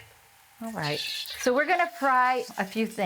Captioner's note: sizzles